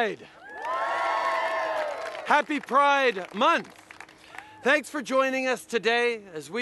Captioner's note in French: Acclamations